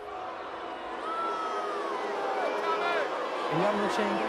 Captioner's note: crowd jeering